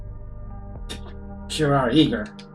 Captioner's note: Musky scoffs